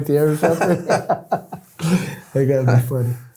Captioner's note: laughing